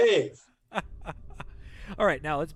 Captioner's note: laughter